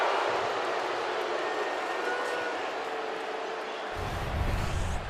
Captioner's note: crowd booing